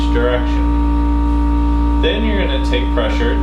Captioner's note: buzzing